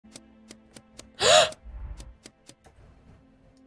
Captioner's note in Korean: 겁먹은 숨소리